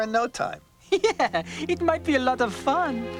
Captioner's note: laughing